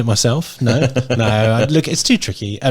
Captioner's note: laughing